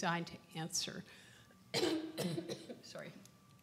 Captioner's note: coughs